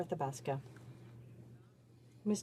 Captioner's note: speaking French